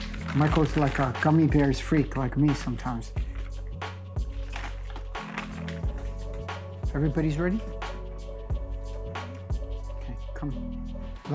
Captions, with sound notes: Michael's like a Gummy Bears freak, like me sometimes. [candy crunching] Everybody's ready? Okay, come.